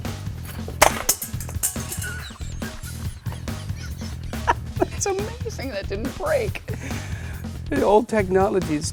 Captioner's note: crash; laughter